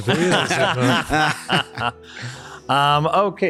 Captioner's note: laughing